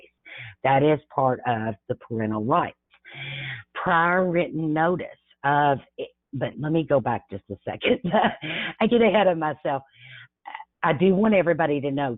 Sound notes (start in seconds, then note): 7.9 chuckles